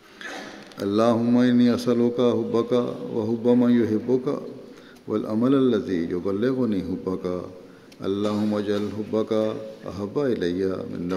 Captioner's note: Arabic